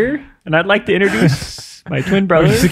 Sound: laughing

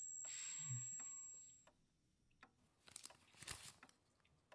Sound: clock ticking

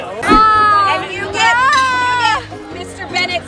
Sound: screaming

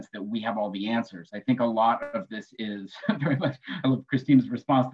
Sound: laughing

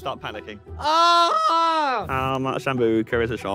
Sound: screams

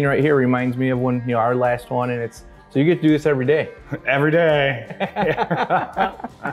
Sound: laughter

